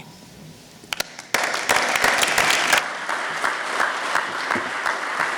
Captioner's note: applause from audience